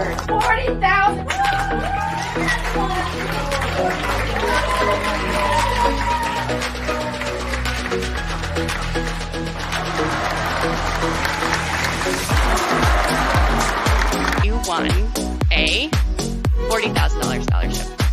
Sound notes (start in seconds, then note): 5.2 crowd cheering